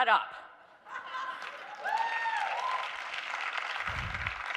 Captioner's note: audience cheering